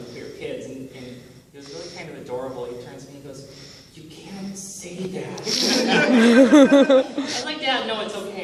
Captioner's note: laughter